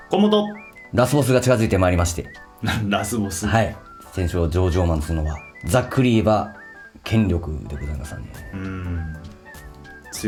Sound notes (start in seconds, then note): 3.5 laughs